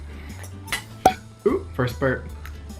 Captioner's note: cork pops